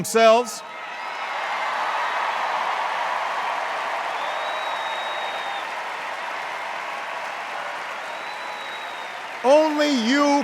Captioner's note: cheers and applause